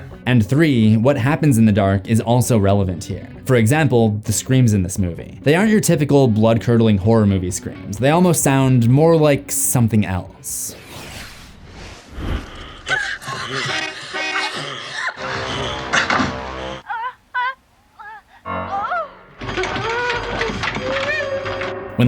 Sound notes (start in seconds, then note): 13.0 car horn blaring; 13.0 girl squealing; 15.1 ominous music; 17.9 girl squealing; 19.2 closet rattling